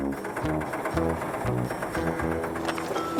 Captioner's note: engine Running